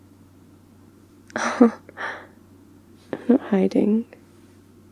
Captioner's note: shocked laugh